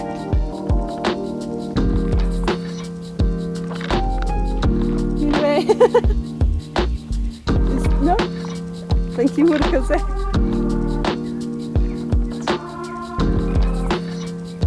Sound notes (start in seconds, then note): 0.1 chill lofi music; 5.3 laughing; 11.2 chill lofi music